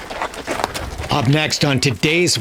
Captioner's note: hooves clopping